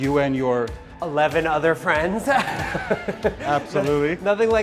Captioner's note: laughs